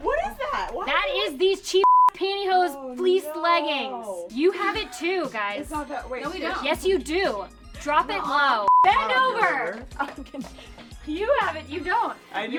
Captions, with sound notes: - What is that? - That is these cheap (beep) pantyhose fleece leggings. You have it too, guys. - No, we don't. - Yes, you do Drop it low. Bend over! You have it, you don't.